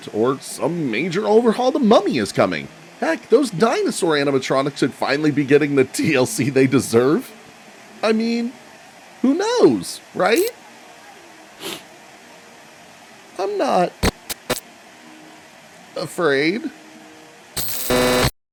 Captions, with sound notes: or some major overhaul to Mummy is coming. Heck, those dinosaur animatronics could finally be getting the TLC they deserve. I mean, who knows, right? [sniffs] I'm not-- [static hissing] Afraid. [buzzing]